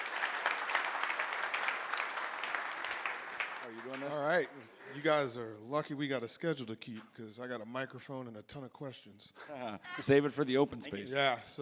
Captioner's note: applause